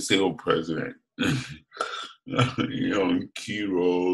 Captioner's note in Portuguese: risos